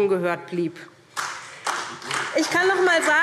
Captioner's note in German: Beifall SPD